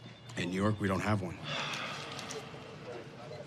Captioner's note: sighs